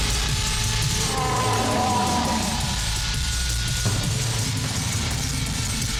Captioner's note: Goldberg shouting; intense music continues